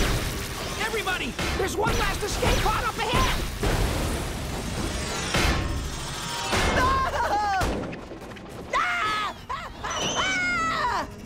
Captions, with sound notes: Everybody, there's one last escape pod up ahead! [screaming] [screaming]